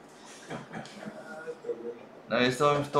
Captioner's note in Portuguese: risos